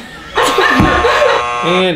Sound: buzzer

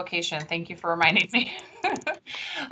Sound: laughs

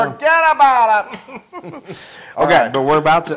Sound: laugh

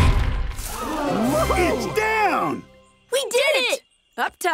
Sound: all gasping

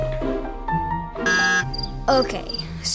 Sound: buzzer buzzes

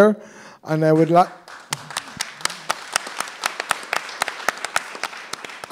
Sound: applause

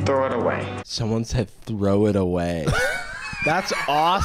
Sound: wheezing

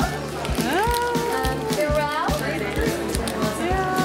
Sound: chattering

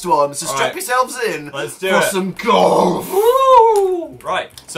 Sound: demon voice

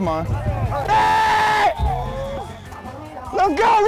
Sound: screaming

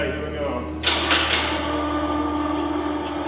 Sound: crane starts

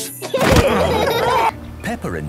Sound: laughing

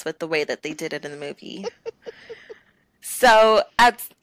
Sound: laughter

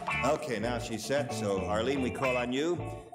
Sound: none

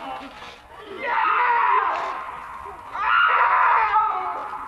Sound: a woman shrieks

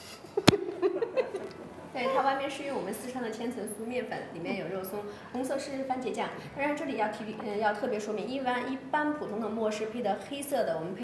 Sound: woman speaking Chinese

